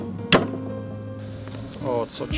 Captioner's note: banging